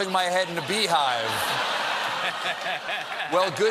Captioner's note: laughter